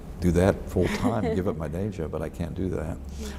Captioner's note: laughs